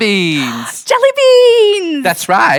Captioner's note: gasps